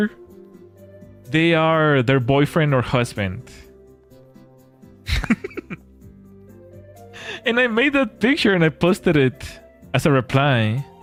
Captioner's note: laughter